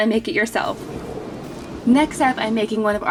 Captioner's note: graphics whoosh